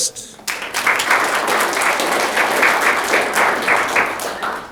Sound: audience clapping

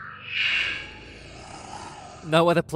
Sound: growls

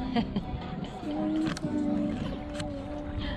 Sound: laughter

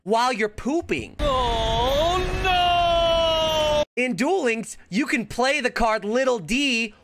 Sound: man yells OH NO

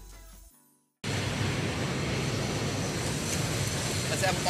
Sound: train rumbling

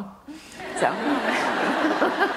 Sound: laughter

